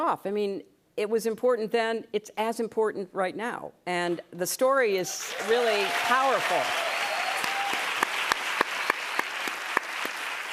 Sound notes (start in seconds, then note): 7.2 cheers and applause